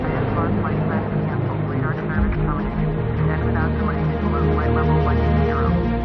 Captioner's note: airport chatter; jets rumbling